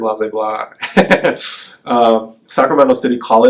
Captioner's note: laughs